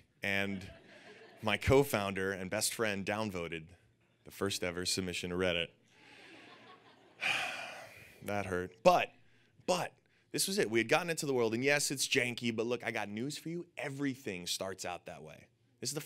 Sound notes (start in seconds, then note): 6.0 audience laughing; 7.2 Alexis sighing